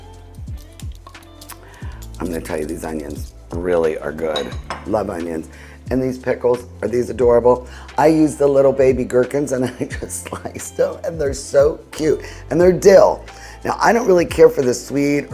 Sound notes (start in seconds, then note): 0.7 slow gentle music; 4.1 bowls clinking